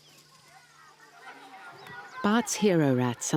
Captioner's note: children calling